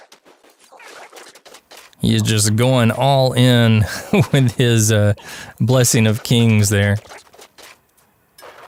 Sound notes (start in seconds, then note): 7.5 haha